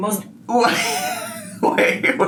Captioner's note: laughs